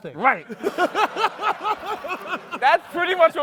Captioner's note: laughter